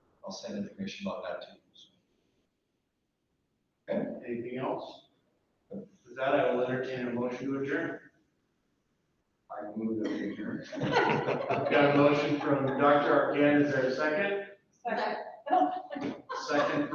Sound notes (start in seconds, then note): 9.7 laughing